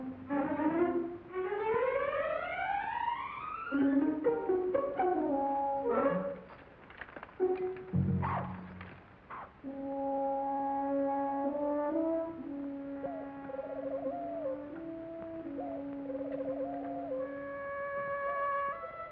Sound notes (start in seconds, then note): 8.2 dog barks; 9.6 soft ominous music